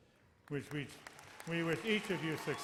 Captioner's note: audience cheers and applauds